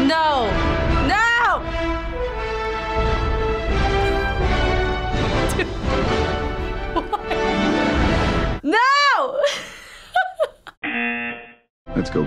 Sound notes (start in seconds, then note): 6.5 laughs; 9.3 laughs; 10.8 buzzer rings